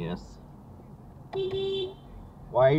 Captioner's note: beep beep